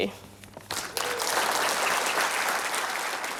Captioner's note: applause